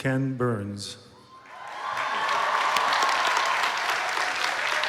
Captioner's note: applause